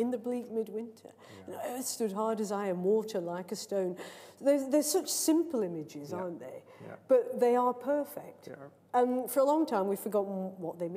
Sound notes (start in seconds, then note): none